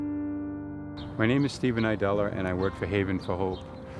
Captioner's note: acoustic piano music; birds chirping